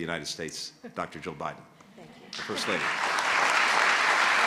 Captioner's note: applause